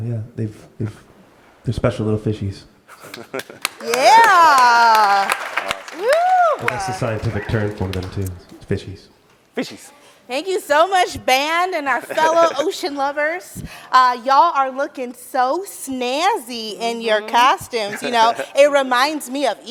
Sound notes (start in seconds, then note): 2.9 laughs; 3.1 audience claps and cheers